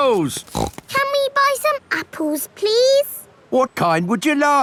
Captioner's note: snorts